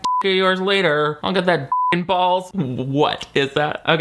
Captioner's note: beep